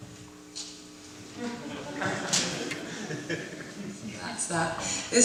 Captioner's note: audience laughter